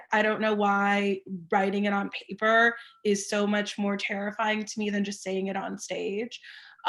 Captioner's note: none